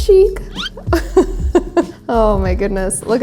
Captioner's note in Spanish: se ríe